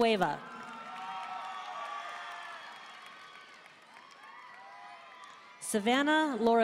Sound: audience cheering and applauding

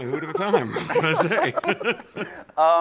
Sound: laughs

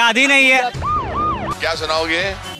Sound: sirens blare

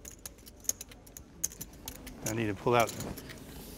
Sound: poker chips shuffling

